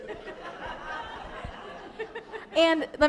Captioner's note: laughter